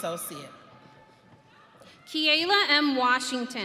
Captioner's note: audience cheering